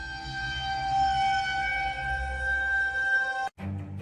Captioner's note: eerie Sound